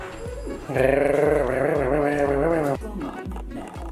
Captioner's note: growl